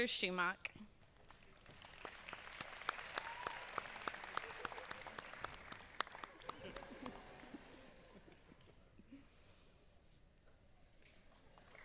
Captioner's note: applause